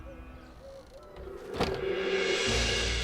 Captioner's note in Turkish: Kapı kapanma sesi